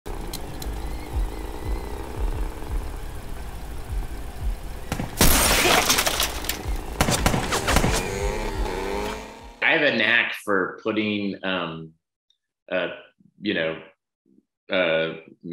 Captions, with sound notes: (motorcycle engine revving) (gunshots) (window shattering) - I have a knack for putting masks or helmets on stunt men